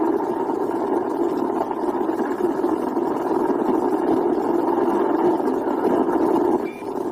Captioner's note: more radio static; beep